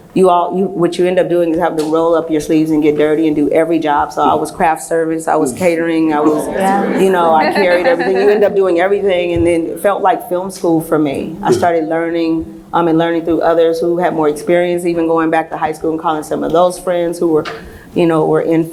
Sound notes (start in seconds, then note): 6.2 laughs